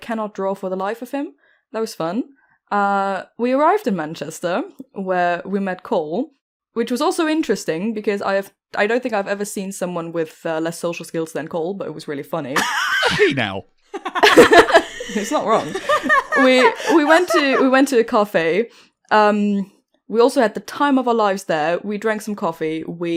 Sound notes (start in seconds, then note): 13.9 laughter; 13.9 laughs